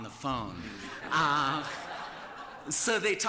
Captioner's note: laughter